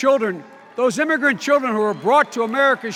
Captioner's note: audience cheers